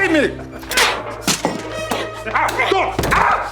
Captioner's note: clanging; yelling